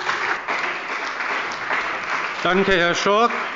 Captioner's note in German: Beifall bei der CDU und dem BÜNDNIS 90/DIE GRÜNEN